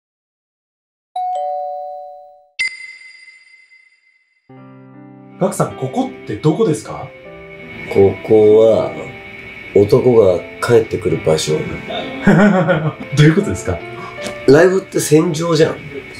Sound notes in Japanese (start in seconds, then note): 2.6 ピックアップ 効果音; 12.0 笑い声